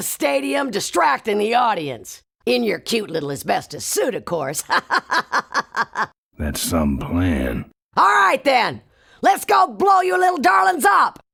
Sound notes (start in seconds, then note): 4.7 laughs